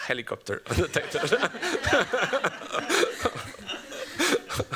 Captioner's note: laughter